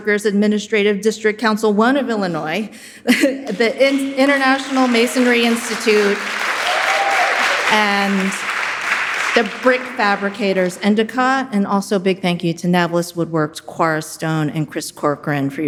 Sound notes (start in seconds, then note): 7.9 audience cheering and applauding